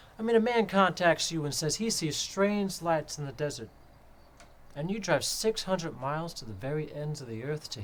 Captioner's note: none